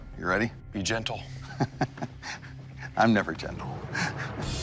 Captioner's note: laughs